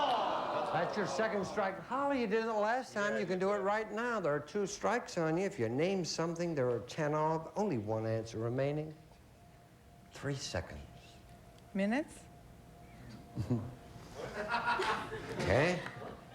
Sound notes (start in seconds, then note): 14.1 laughter